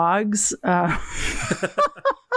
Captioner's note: laughs